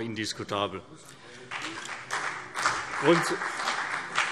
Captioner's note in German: Beifall CDU und BÜNDNIS 90/DIE GRÜNEN